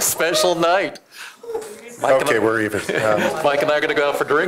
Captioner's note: laughter